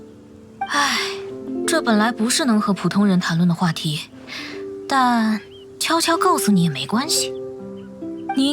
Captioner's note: sigh